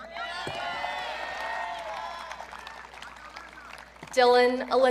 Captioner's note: audience cheering